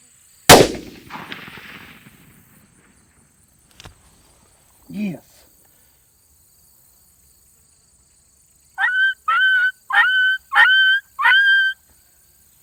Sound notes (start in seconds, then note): 0.5 gunshot; 8.8 coyote call